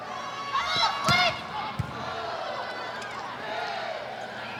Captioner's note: ball thumping